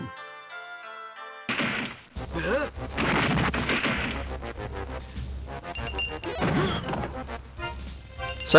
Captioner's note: wood Breaking; game Sounds